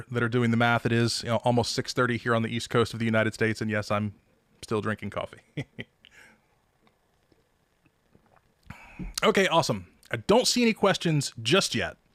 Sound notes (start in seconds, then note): 5.6 laughs